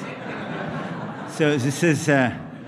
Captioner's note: laughter